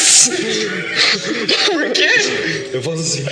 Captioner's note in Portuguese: risadas